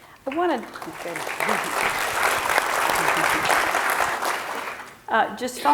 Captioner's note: clapping